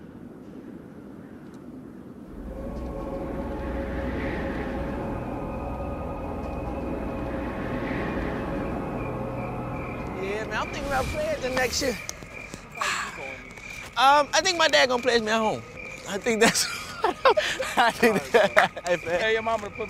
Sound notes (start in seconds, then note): 0.0 wind whooshing; 12.2 insects chirping; 16.2 laughs